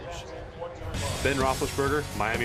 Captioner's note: pa announcement